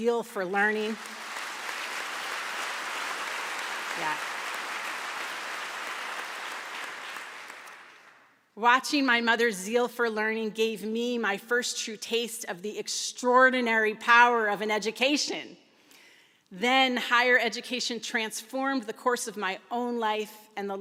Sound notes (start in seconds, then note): 0.5 applause